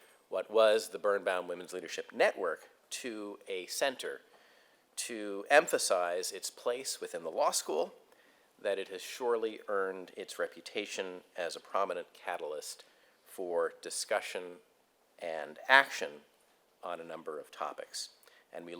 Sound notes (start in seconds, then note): none